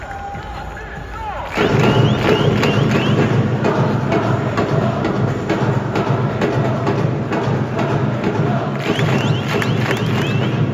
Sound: clap x5

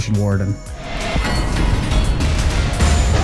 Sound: loud banging

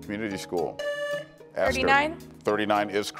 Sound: buzzer beeps

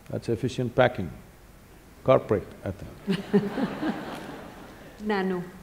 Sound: laughter

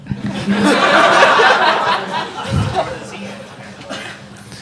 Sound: audience laughing

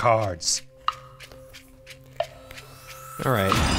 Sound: clock ticking; suspenseful music

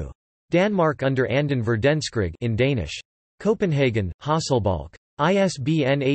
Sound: in Danish

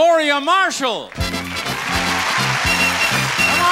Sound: audience applauding and theme music playing

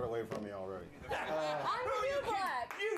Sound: applause

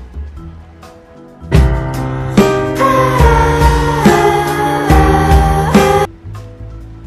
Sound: sound of regret

